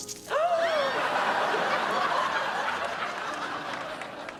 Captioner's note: splattering; gasping; laughter; clapping